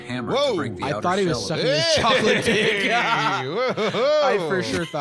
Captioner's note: laughs